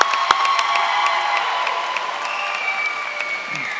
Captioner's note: applause